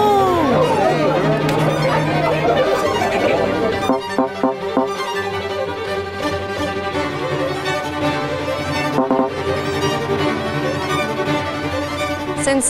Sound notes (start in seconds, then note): 0.0 participants chattering; 1.2 tense dramatic music; 4.1 electronic tone beeping; 4.1 tense dramatic music; 8.9 electronic tone beeping; 9.3 tense dramatic music